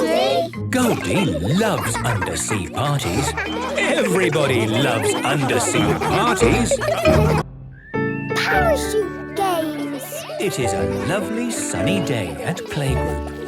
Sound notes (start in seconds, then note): 6.3 laughter